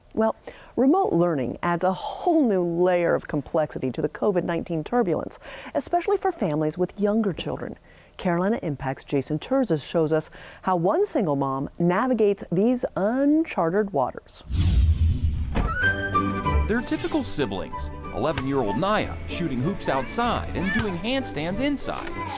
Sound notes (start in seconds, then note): 14.4 air whooshes; 15.6 whimsical music